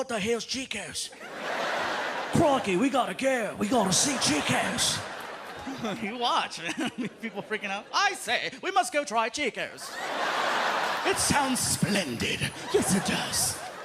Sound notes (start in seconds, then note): 1.2 laughter; 8.0 British accent; 9.8 laughter